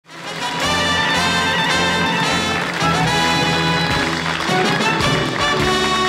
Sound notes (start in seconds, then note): 0.0 audience clapping